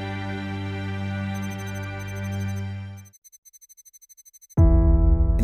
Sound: electronic beeping; calm instrumental music

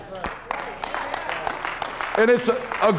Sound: applauding

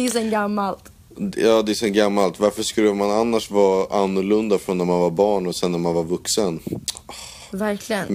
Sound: sigh

